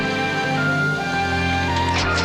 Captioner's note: starts engine